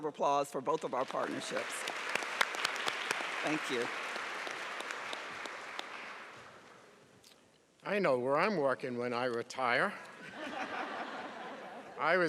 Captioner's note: applause